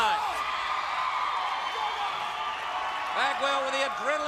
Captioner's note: crowd cheering